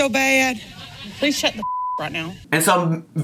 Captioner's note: beep